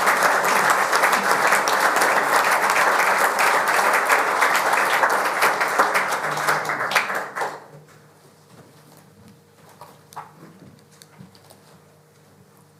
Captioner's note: applause